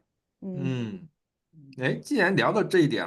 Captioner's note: nonverbal grunt as interjection